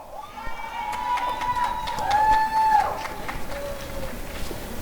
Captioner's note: applause and cheering